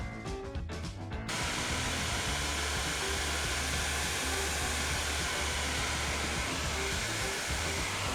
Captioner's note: blow dryer hums